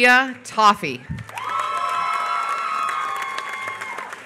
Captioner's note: applause